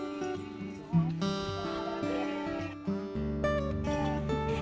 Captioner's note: chatter